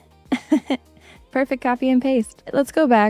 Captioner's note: laughs